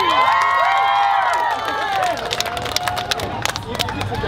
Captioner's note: cheering